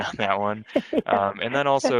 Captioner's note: laughs